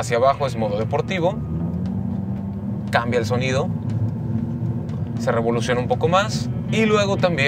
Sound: engine roaring

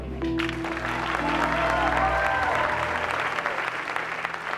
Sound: audience applauds

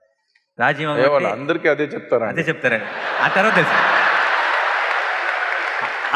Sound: laughter

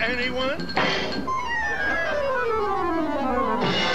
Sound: banging; cymbal crashing

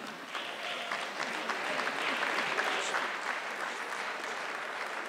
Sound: audience clapping

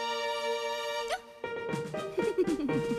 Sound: hiccup!; giggling

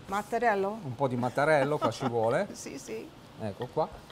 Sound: laughter

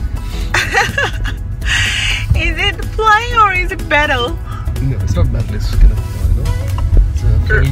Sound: laugh

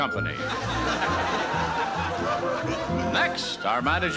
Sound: laughing

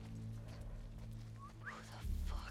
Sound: whistle

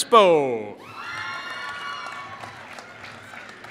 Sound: applause

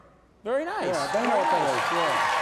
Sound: audience cheers and applauds

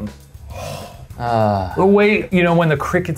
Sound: sighs; groans

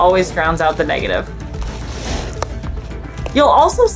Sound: background music; ice shuffling noise

